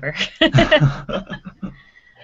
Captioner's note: laughing